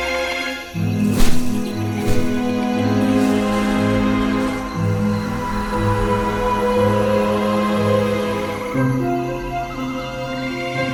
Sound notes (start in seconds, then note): 0.8 vines whoosh